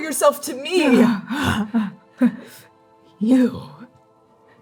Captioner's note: groaning in pain, mirthless chuckle